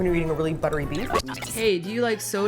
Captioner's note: static